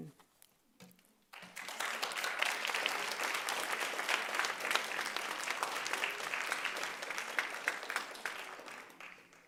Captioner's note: applause